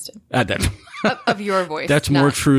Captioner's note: laughter